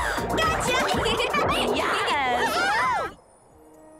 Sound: cheering

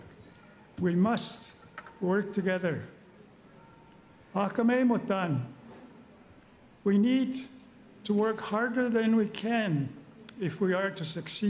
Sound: speaking Indigenous Language

